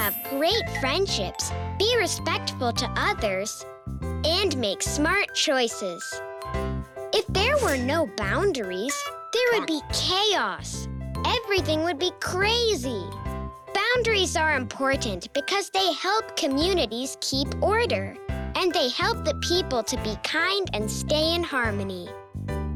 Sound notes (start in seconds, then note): 0.0 tinkling; 7.3 tinkling